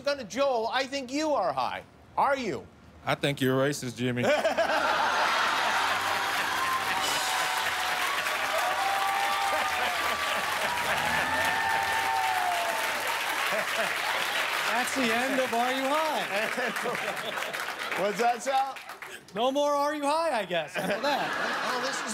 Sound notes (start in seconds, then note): 6.9 laughter and applause